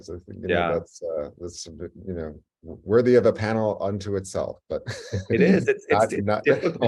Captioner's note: laughs